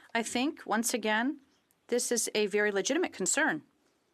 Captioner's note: speaking French